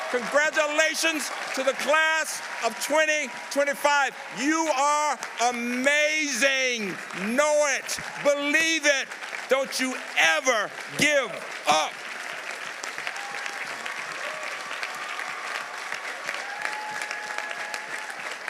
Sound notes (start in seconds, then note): 11.6 audience applauding; 12.8 audience cheering